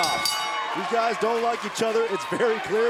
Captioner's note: bell ringing